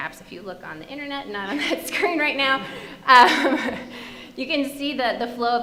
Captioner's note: chuckling